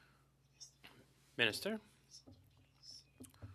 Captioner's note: speaking French